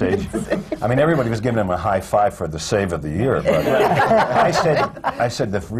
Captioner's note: laughter